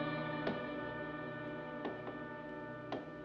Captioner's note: tapping